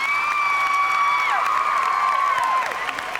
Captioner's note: whooping; applause and cheering